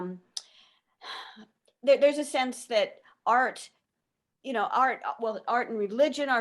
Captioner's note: sighs